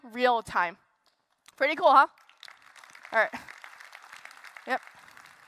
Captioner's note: applause